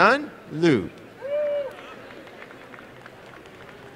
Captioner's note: applause and cheering